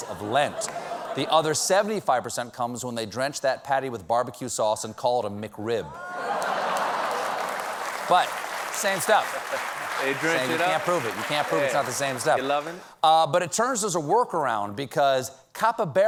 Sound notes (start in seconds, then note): 4.6 applause; 6.0 laughter